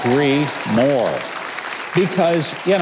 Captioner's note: audience applause